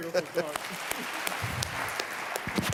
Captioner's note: applause